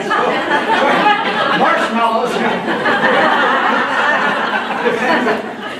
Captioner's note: laughter